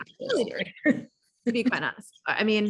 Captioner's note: laughing